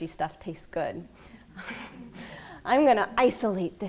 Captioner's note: laughing